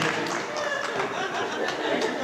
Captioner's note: laughter